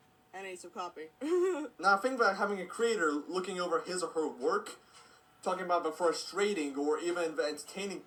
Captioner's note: she laughs